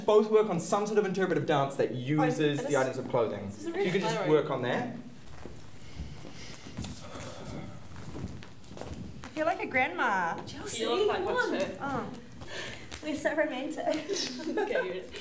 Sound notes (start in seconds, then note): 5.2 squeaky footsteps, deep breathing; 13.9 laughing